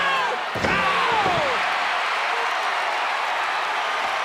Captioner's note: audience cheers